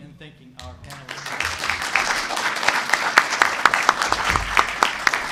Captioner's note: applause